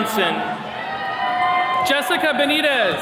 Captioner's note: attendees cheering